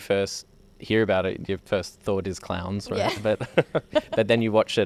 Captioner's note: laughs